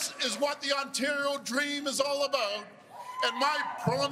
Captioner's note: cheers and Applause